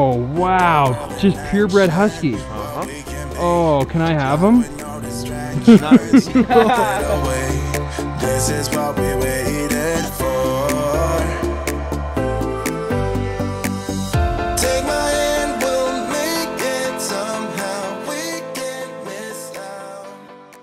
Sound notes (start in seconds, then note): 5.4 laughs; 8.5 light pop music